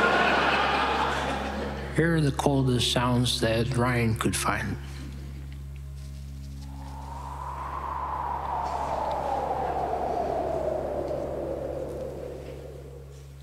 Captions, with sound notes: Here are the coldest sounds that Ryan could find - ['Cold Wind' Sound Effect]